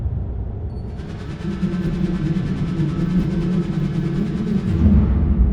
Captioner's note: drone buzzing